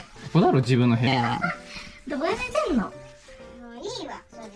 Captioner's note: laughs